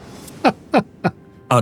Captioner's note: laughs